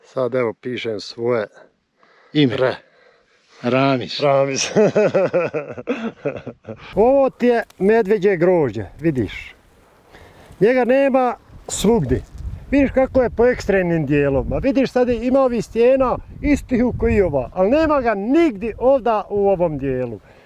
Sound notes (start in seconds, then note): 4.7 laugh